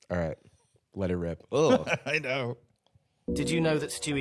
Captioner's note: giggling